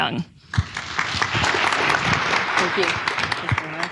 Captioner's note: audience clapping